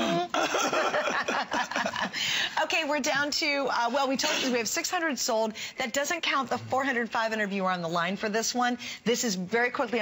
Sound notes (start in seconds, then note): 3.5 laughter